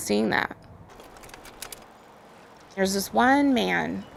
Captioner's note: filmstrip clicks